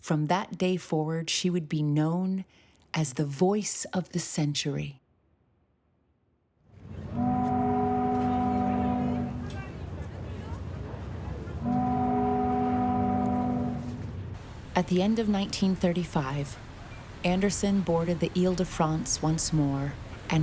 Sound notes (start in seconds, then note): 6.8 ship horn blaring